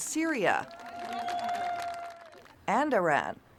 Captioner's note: crowd cheering